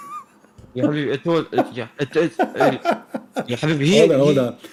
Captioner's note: Ketawa